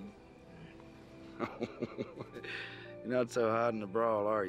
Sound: chuckling

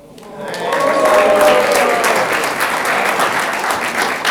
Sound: audience clapping

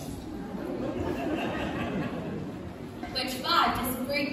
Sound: laughter

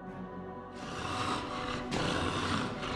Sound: growling

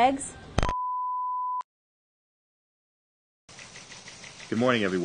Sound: emergency broadcast beep

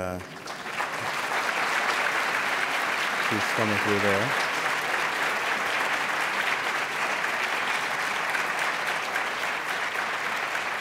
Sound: applause

